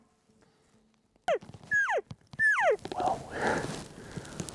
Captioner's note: cow calling